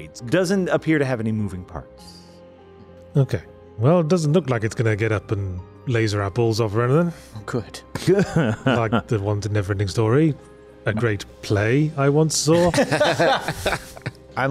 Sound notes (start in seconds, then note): 8.2 laughs; 12.6 chuckles